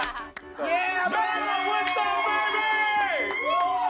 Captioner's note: cheering